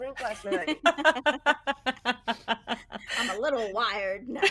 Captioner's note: people laughing